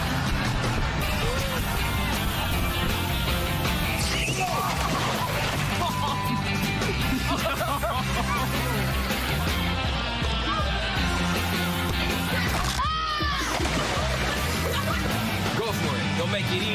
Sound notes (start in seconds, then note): 0.2 laughing; 3.6 squeaks; 4.0 shouts